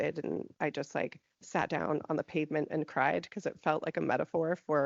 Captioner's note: none